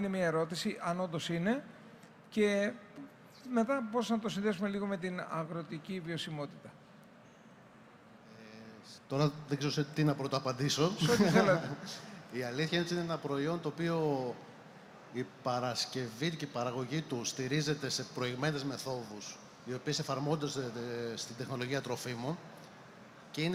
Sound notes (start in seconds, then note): 11.0 laughter; 11.0 laughs